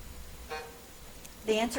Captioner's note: timer buzzes